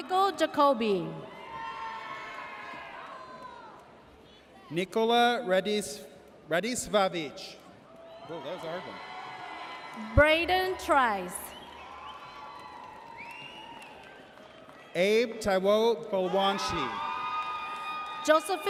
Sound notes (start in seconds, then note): 1.3 audience cheers; 11.8 audience cheers